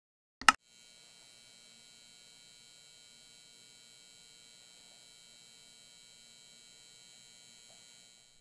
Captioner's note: buzzing